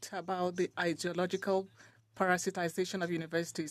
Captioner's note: speaking French